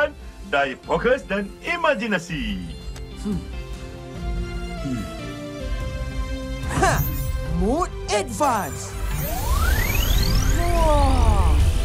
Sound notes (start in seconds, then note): 4.8 pleased grunt